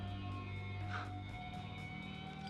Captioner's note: scoffs